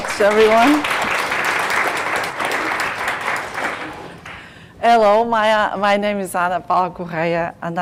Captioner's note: applause